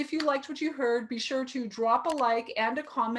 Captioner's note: mouse clicking